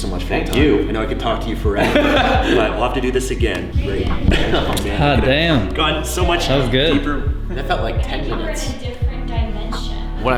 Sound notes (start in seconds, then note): 1.7 laughs